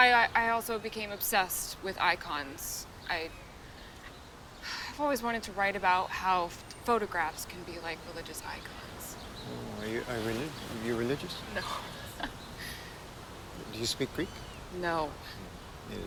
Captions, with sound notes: I also became obsessed with icons. I... (sighs) I've always wanted to write about how photographs can be like religious icons. - Oh, are you religious? - No. (chuckles) - Do you speak Greek? - No.